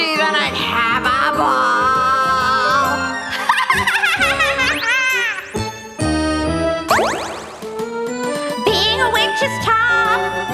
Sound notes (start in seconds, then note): 3.3 girl laughing